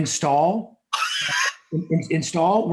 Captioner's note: laughs